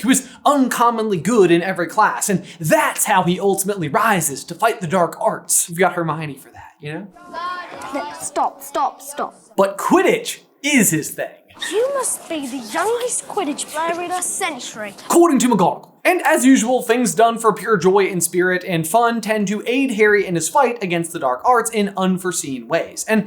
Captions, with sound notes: who is uncommonly good in every class, and that's how he ultimately rises to fight the dark arts. We've got Hermione for that, you know? Stop. Stop. Stop. But Quidditch is his thing. You must be the youngest Quidditch player in a Century. [accented] According to McGonagall. And as usual, things done for pure joy and spirit and fun tend to aid Harry in his fight against the dark arts in unforeseen ways.